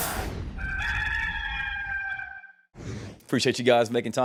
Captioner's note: cock crows